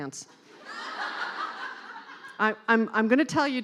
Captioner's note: laughing